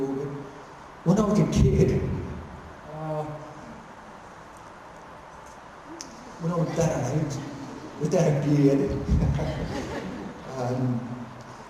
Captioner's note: laughter